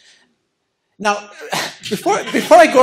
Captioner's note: laughter